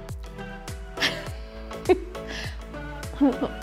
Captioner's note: giggling